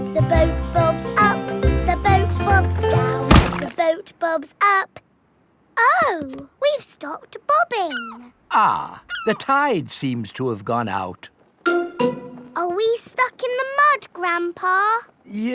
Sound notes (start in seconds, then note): 3.2 thuds